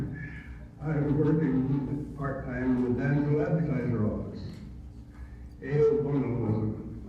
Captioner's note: audio distorts